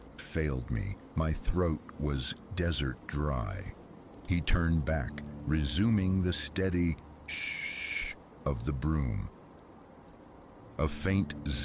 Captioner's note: shh-shh